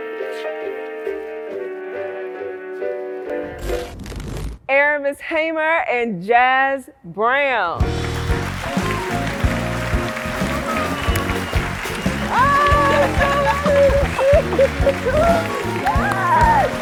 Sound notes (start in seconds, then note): 3.3 television static; 7.8 applause